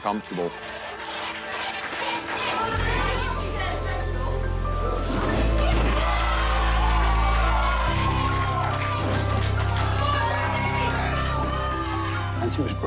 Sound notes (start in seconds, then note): 0.1 applause; 5.4 cheering